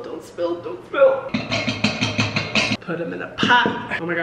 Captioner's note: pan banging